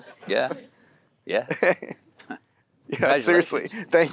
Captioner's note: Timothée chuckles